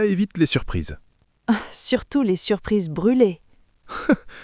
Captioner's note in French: rire